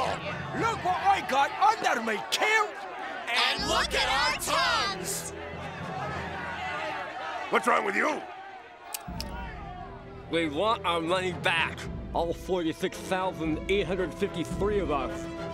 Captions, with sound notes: Look what I got under me kilt! And look at our tongues! [yelling, protesting] What's wrong with you? [clicking] We want our money back. All 46,853 of us.